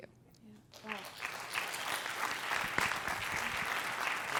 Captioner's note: applause